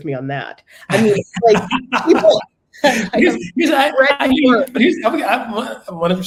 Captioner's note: laugh